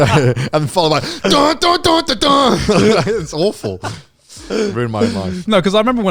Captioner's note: blabbering